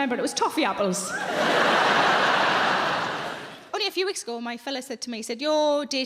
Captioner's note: audience laughs